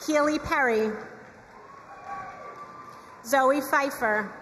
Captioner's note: crowd cheering and applauding